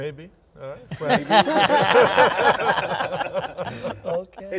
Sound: panel laughs

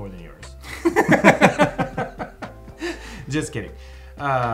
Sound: both laughing

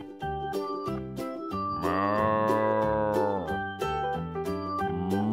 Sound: cow moos

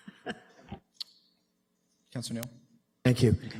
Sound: laughs

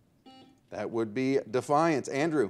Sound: buzzer beeps

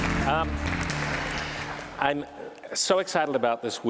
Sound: applause

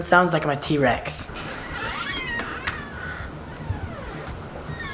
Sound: door opens

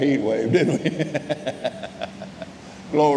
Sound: laughing

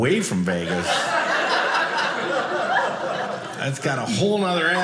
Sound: audience laughing

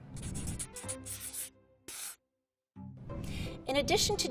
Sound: pen scribbling

